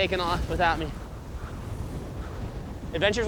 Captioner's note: wind blowing